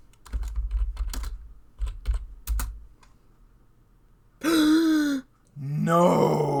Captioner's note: gasp